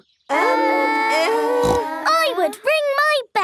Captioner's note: peppa snorts